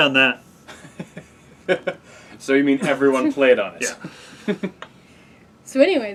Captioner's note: laughing; laughs